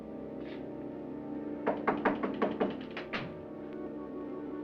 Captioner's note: knocking on door